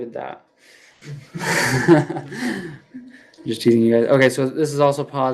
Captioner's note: laughs